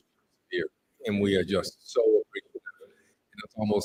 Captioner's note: none